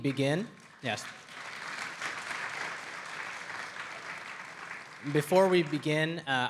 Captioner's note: audience applauds